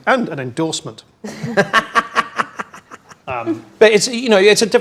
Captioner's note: group laughs